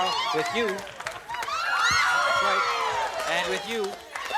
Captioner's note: cheering and applause